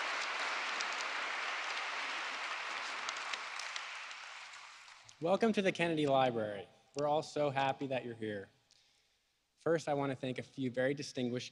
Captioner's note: applause